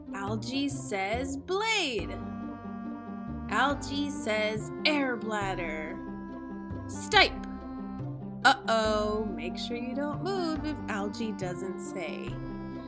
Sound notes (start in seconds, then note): none